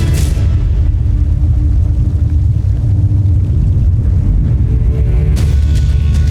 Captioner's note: molten surge rumbles; music fades